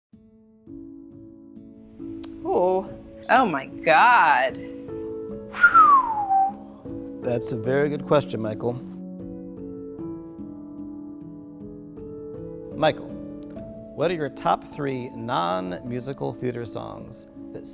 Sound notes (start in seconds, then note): 1.0 light music; 5.5 whistles